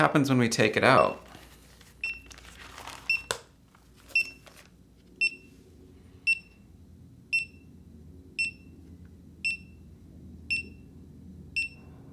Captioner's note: beeping